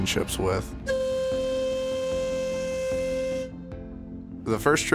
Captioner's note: boat whistle sounds